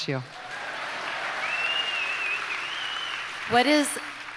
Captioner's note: audience applauds